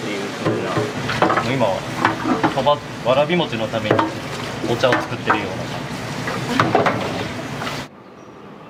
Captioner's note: laughs